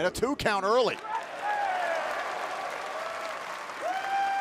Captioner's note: cheers & applause